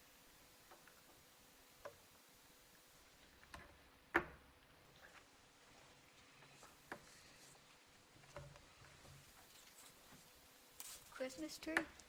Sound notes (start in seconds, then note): none